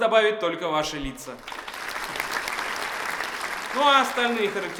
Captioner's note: applause